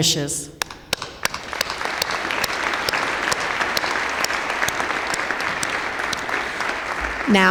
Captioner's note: applause